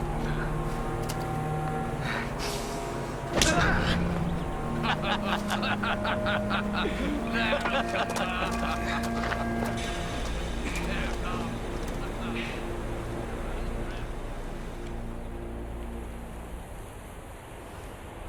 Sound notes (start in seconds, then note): 3.3 smack; 5.2 laughing